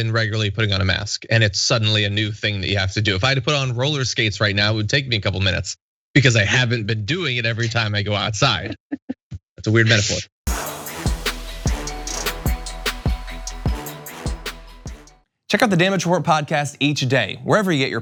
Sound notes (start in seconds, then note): 8.6 laugh